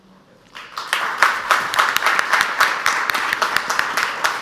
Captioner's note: audience applauds